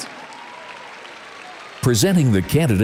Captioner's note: audience applauds